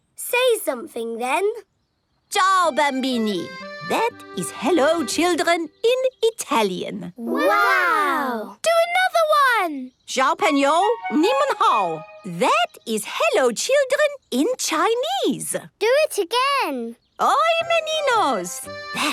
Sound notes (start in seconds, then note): 9.9 speaking Chinese; 17.1 speaking Portuguese